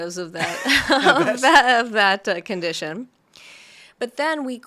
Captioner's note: laughs